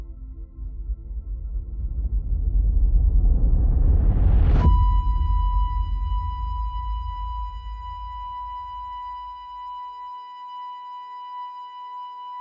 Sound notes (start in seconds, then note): 4.7 monitor beeping